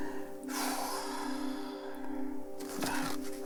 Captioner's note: sighs